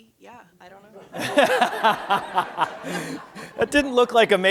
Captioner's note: laughter